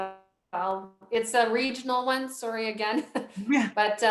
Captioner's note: chuckles